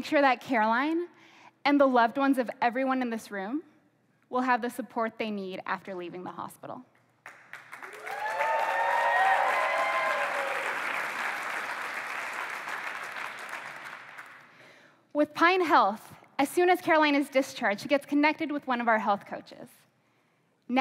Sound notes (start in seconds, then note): 7.2 applause